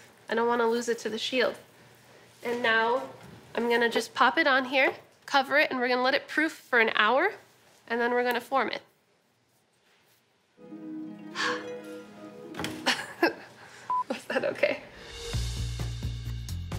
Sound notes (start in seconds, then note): 10.6 harp music; 12.8 laughs